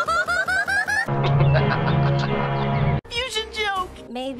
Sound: Ricky Caldwell's laugh

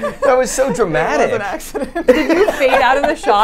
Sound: laughs

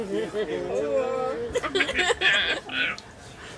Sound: both laugh

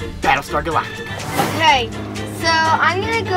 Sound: air whooshing

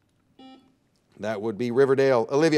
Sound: buzzer dings

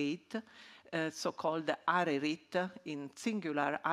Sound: speaking in ancient Egyptian; speaking in ancient Egyptian

